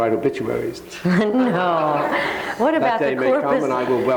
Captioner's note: audience laughing